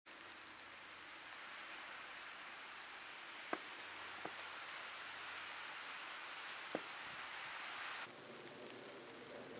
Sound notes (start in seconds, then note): 0.0 snow flurry, footsteps, moving car; 8.0 snow flurry, background noise